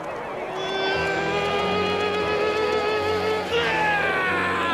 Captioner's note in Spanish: Gritando